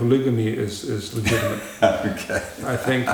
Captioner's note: laughs